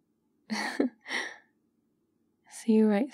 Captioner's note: laughs